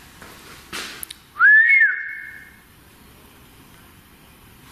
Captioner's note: whistling